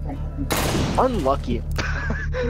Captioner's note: gun firing; laughs